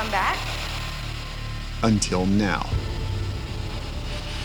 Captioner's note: voiceover